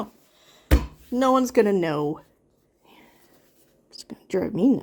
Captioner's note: thumps table